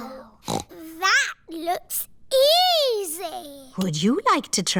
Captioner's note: snorts